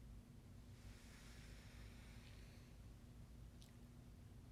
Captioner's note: inhaling